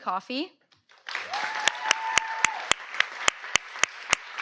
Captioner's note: audience applauds